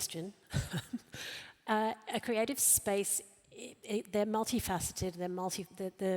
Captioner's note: laughs